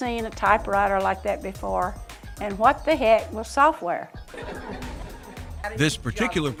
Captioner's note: laughter